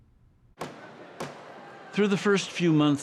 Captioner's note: gavel pounds